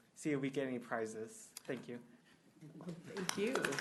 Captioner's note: applause